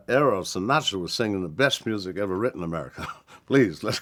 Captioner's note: chuckles